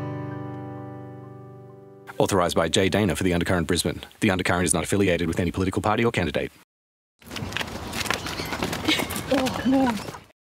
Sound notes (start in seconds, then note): 7.2 sounds of fighting